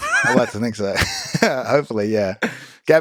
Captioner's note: Lex laughs